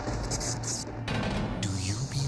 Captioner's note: eerie soundscape; lever thunking